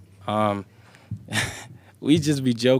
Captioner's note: laughs